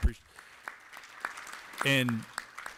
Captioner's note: applause